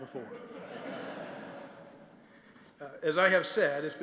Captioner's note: laughter